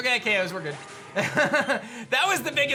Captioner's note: laughs